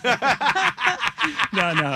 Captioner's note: laughing